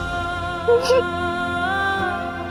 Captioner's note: sobbing